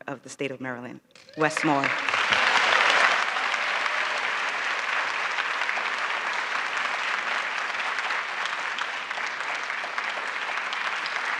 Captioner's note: applause